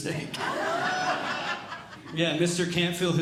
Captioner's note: audience Laughing